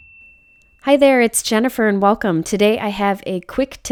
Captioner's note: voiceover